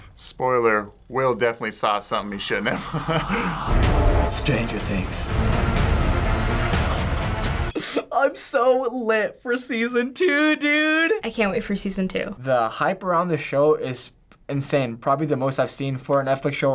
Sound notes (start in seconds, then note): 2.6 chuckles; 5.5 climatic music